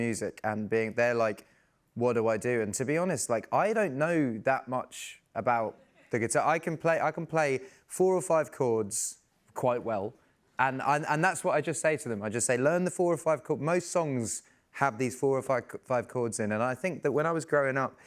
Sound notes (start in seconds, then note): none